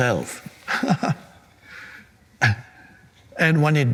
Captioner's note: Eckhart laughing